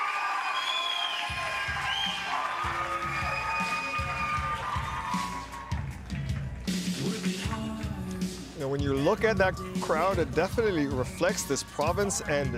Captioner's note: cheers and Applause